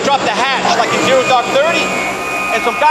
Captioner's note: hatch whirring